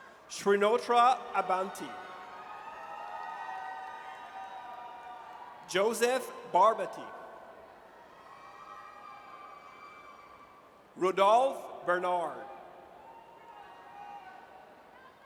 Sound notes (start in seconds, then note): 0.8 audience cheers; 7.6 audience cheers; 12.8 audience cheers